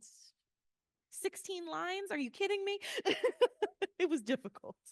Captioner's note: laughing